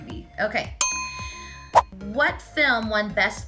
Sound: dinging

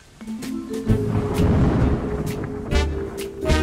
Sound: thunder; jazz music

